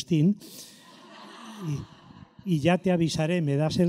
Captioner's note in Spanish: risotada